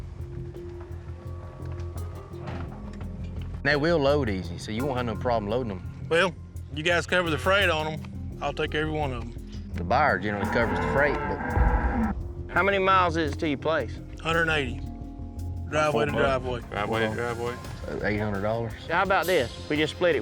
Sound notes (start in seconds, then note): 0.1 suspense music; 13.2 cows mooing